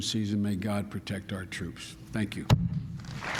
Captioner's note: applause